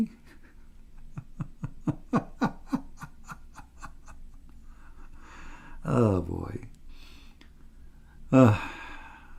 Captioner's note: Ketawa